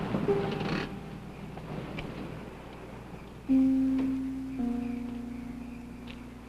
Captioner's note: insects chirping; parking brake clicks